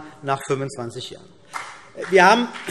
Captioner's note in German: Beifall CDU und BÜNDNIS 90/DIE GRÜNEN